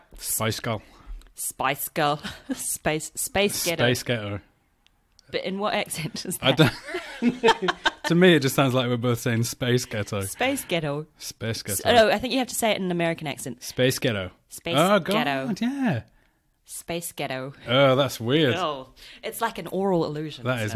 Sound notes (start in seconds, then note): 0.6 scottish accent; 6.5 laughs; 13.8 american accent